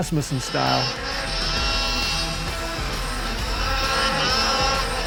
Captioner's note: BoonDocker engine revs